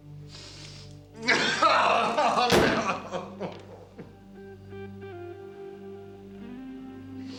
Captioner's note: cries